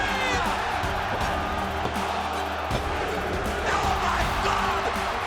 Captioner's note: crowd cheering; tense music continues